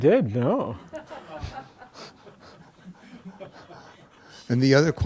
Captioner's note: laughter